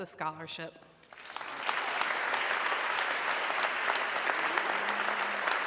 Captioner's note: audience clapping